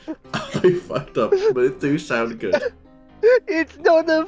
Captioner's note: laughter